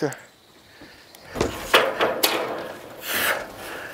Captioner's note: metallic clatter